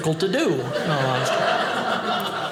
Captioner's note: audience laughing